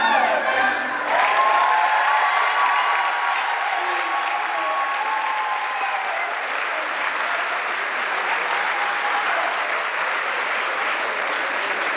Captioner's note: crowd applause